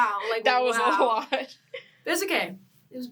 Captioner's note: laughing